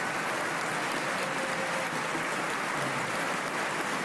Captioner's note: applause